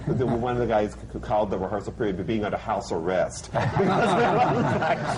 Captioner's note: laughter